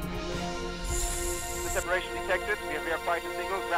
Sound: whooshing

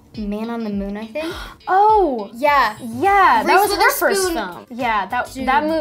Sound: gasps

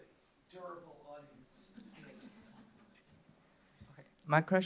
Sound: laughter

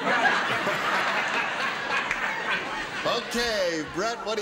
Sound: laughter

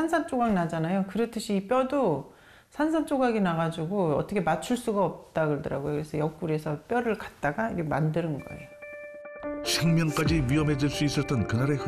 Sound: voiceover

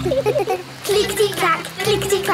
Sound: laughing

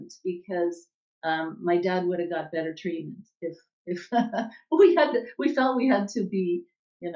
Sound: chuckle

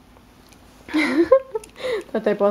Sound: giggles

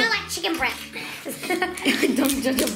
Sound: giggles

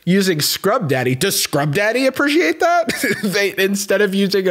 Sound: chuckles

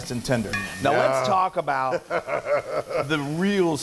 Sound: laugh

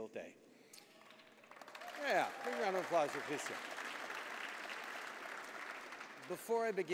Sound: applause

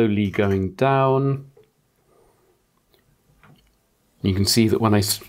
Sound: blank Audio

